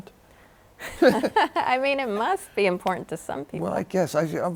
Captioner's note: laughs